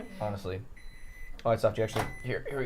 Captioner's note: microwave beeping